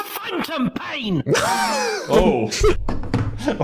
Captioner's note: Dan laughs